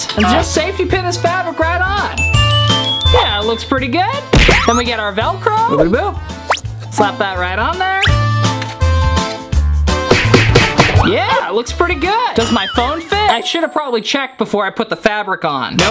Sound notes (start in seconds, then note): 2.2 bells chiming; 8.2 upbeat accordion music; 10.0 cartoonish whacking